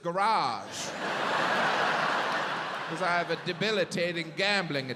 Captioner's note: audience laughs